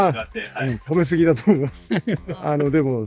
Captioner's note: translator laughs; speaking in Japanese